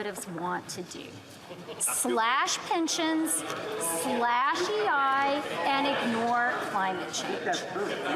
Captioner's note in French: voix de l'interprète